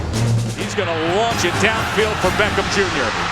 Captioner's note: voiceover